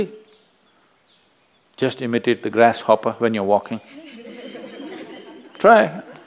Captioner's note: laughter